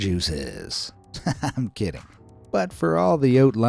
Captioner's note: chuckles